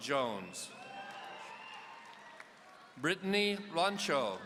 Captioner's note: audience cheering